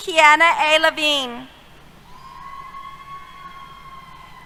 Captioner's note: cheers